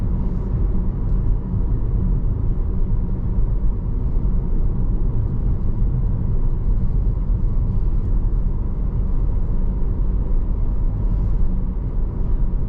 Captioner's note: engine rumbling